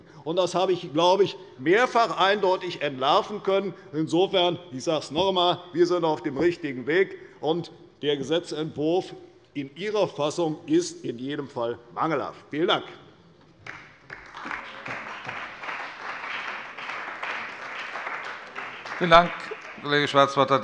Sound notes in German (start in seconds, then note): 13.6 Beifall bei der CDU und dem BÜNDNIS 90/DIE GRÜNEN